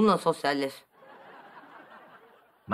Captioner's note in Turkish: Gülme efekti